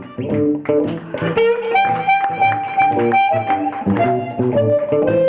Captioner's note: audience applause